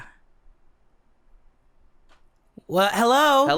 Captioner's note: silence